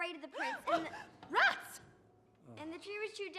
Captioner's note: gasps